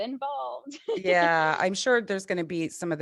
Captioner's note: chuckles